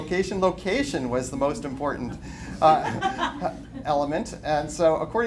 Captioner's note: laughter